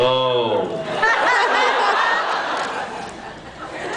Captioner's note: laughs